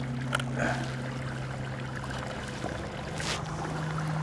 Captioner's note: water flowing gently